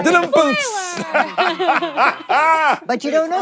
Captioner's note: everyone laughs